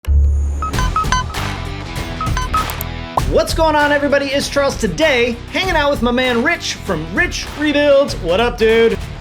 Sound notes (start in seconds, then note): 0.6 upbeat music; 0.6 computer chiming